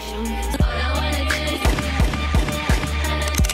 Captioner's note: gunshots firing